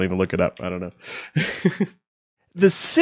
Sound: laughing

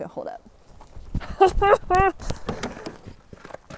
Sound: laughing

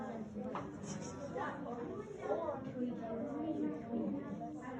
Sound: students chatting

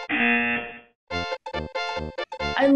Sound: buzzer rings

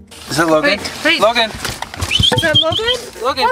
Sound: whistles

